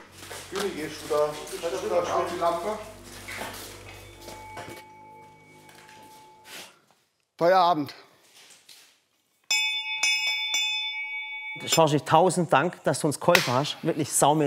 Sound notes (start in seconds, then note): 9.5 Glockenläuten